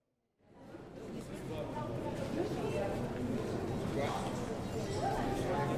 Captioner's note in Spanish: Gente hablando en el mercado